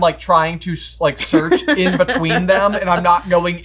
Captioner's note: laughing